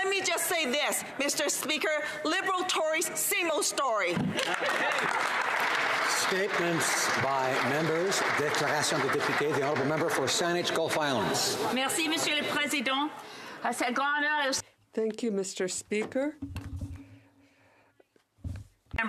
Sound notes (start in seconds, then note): 8.9 applause